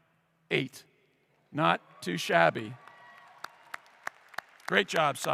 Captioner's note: clapping